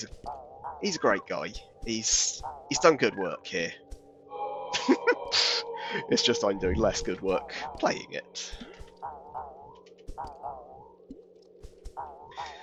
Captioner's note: chuckles